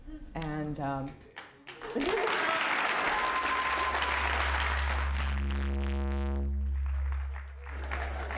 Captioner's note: applause; applause